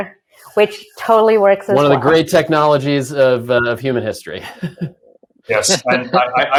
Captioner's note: laughs